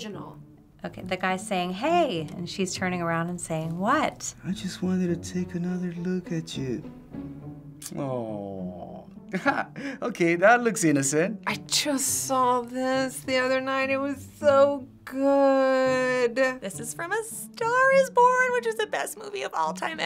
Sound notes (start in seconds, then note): 9.3 laughing